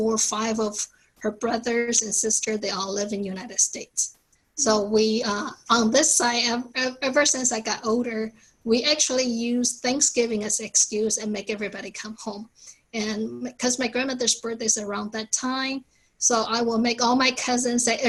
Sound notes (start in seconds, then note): none